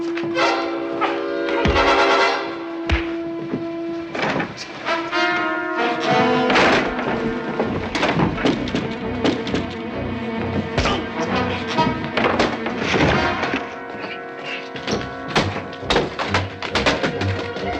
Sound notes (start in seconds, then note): 10.8 grunting